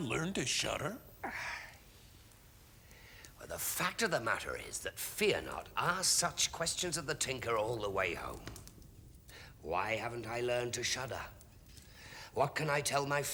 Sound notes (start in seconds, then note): 1.2 sighs